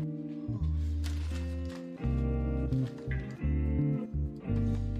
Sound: packaging rustling

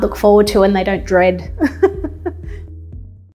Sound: laughs

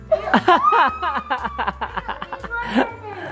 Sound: squealing

